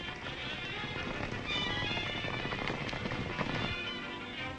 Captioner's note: horses galloping